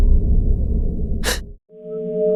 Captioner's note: gasps